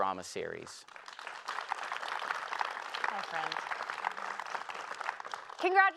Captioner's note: applause